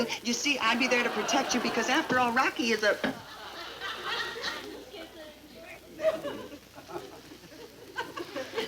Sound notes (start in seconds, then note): 2.8 audience giggles